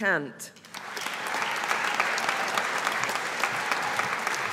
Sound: audience applauding

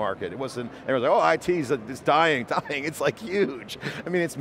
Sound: laughs

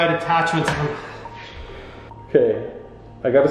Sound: sighs

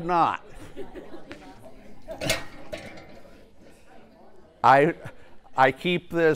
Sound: laugh

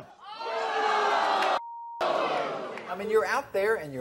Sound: audience boos

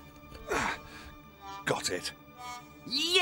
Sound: grunts

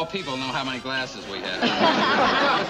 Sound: laughing

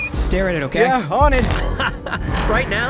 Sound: laughs

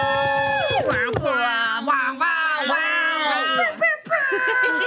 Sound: all cheering; group making buzzer noises; giggling

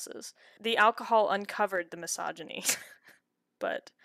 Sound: chuckles

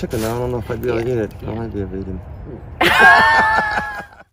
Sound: laughing

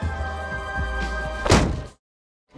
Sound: loud bang

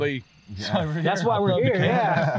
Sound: laughter

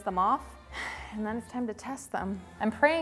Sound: sighs

